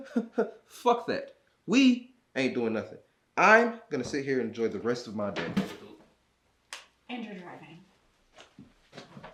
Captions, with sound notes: - (snickers) Fuck that. We ain't doing nothing. I'm gonna sit here and enjoy the rest of my day. (remote clatters) - And you're driving.